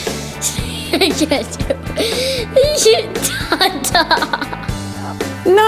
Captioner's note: laughter